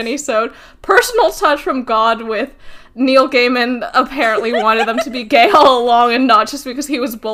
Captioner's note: laughing